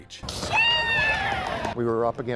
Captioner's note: players screaming